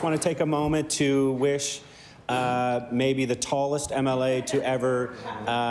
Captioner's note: laughter